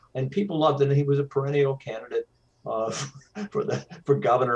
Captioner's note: laughs